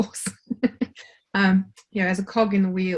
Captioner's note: laughs